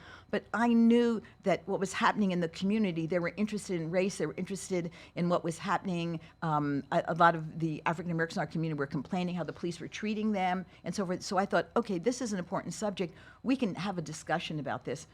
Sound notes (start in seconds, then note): none